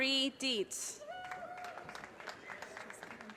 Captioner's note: audience cheers and applause